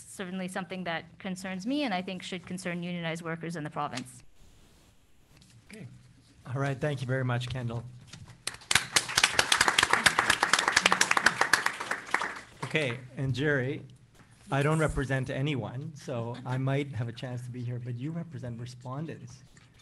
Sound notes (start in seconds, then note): 8.4 applause